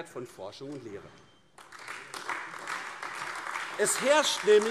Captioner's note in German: Beifall AfD